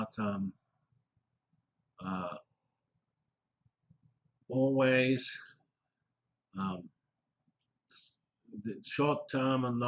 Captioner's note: pause